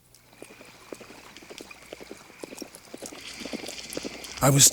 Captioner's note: hooves clop